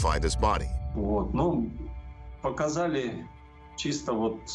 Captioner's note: speaking Russian